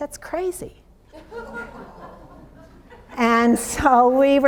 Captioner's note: audience laughs